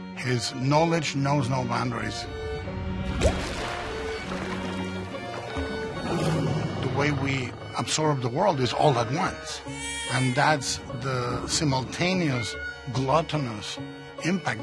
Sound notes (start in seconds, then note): 3.0 splash; 5.8 lion roars